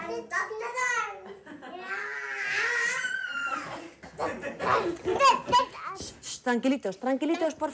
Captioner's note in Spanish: gritos, risas